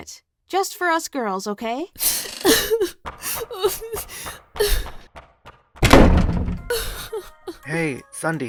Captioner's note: sondy starts sobbing